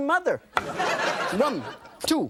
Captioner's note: laughter